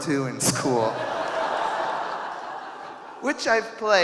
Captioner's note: audience laughing